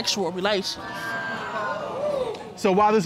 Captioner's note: audience exclaims in surprise